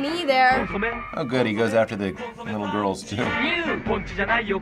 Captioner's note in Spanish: Sarcásticamente